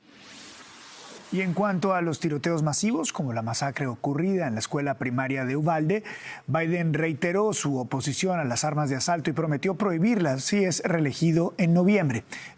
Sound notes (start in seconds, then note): 6.2 HABLA EN INGLéS